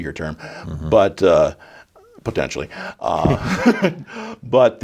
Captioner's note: both laughing